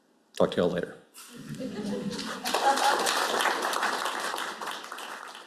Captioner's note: applause